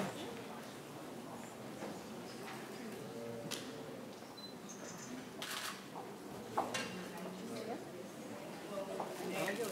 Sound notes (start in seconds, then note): 5.4 camera shutter clicks